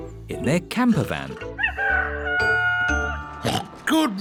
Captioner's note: daddy pig oinks; rooster crowing